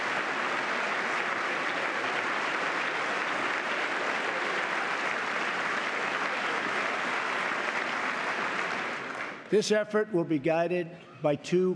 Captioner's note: applause